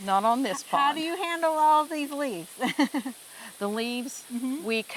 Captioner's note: laughing